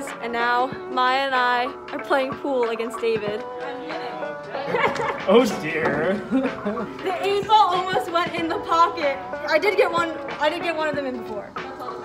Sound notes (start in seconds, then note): 3.5 mellow music; 4.6 laughs